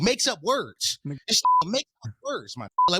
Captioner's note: beep; beep